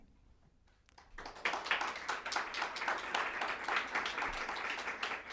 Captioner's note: audience clapping